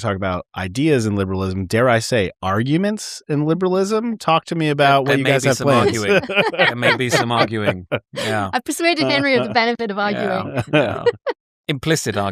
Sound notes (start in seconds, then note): 5.0 laughter